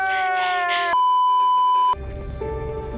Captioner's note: hissing & crying even more; beeeeeeeeeeeep